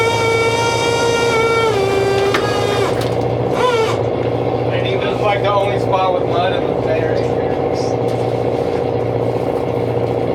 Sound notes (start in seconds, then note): 2.7 engine revving